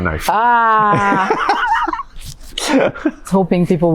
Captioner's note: both laugh